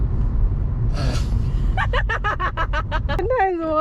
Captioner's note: laughs